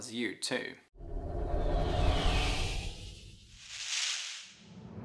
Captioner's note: swishing